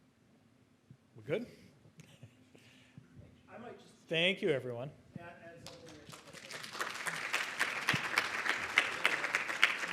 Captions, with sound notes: We're good? Thank you, everyone. (audience applauding)